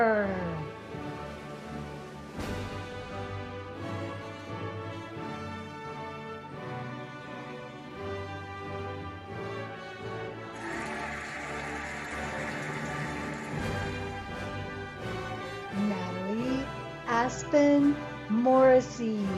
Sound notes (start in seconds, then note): 2.0 cheerful music; 10.5 cheering and applauding